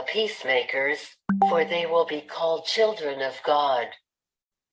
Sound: chat notification sound

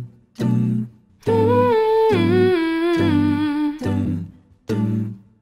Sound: humming

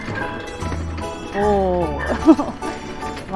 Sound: laughs

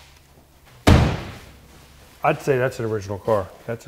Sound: door thudding

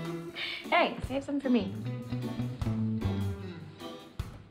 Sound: Eddie exhales deeply

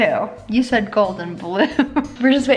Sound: chuckles

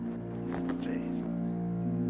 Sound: whinces

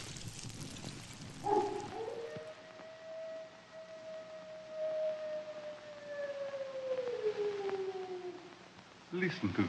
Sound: wolf's howl

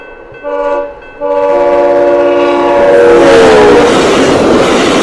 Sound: extremely loud horn

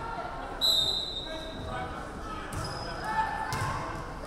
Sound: referee whistling

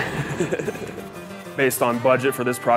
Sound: laughing

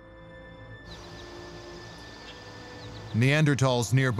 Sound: birds chirping

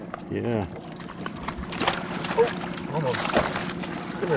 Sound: fish splashing

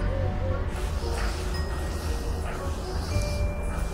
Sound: mysterious music continues; footsteps

